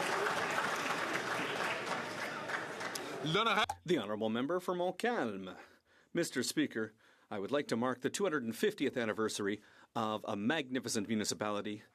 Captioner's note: some Applause